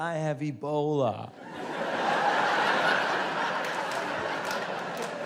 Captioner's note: audience laughs